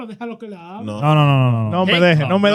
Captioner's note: speaking In Foreign Language